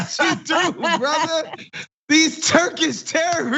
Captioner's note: laugh